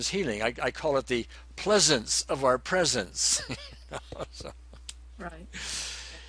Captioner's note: laughs